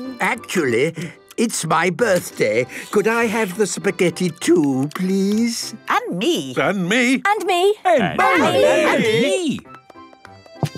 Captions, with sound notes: - Actually, it's my birthday. Could I have the spaghetti too, please? - (calling out in turn) And me! And me! And me...!